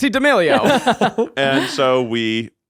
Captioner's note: all laughing